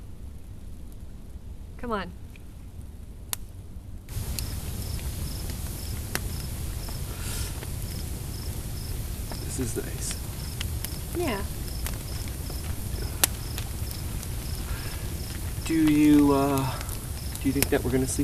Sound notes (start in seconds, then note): 4.8 fire crackling; 4.8 insects buzzing